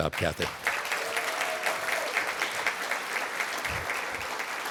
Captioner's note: applause